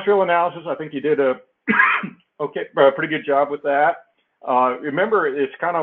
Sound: cough

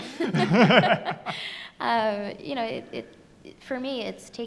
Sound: both laughing

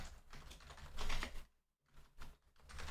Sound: typing

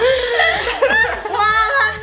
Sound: laughing

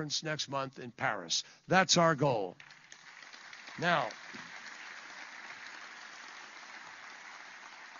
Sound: applause

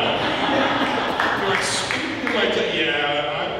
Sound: audience laughing

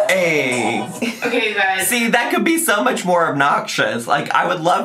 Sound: laughs

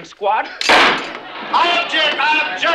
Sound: pitchfork banging

